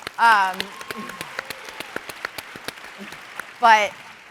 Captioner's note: audience applauds